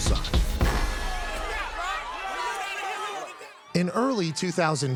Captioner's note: crowd murmuring